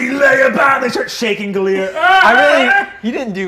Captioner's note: screams